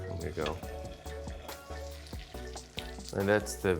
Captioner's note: oil sizzling